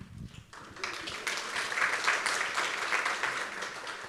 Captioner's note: audience applauds